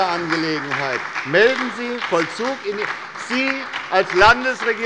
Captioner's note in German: Beifall bei der SPD und der LINKEN